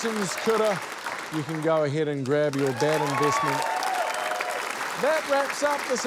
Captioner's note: applause; cheering